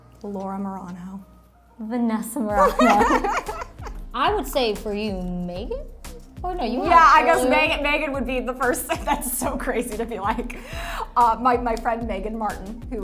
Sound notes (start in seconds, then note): 2.6 laughing